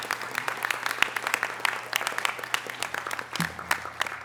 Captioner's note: audience applause